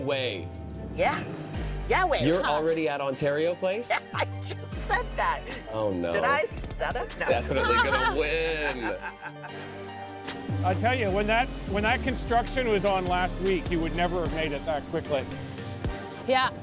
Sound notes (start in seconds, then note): 6.2 laughs